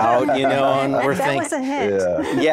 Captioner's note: laughing